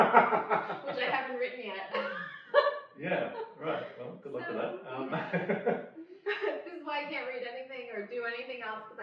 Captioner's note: laughs